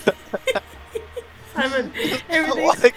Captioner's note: heeheeheehee horrible giggle